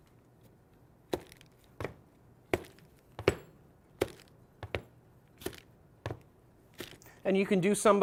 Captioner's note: walking sound